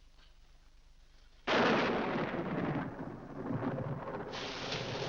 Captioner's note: loud thunder; rain falling heavily